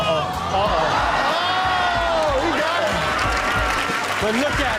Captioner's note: shouting and cheering